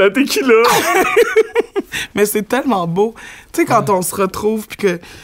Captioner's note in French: éclat de rire